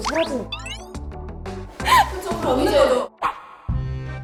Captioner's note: suddenly bursts out laughing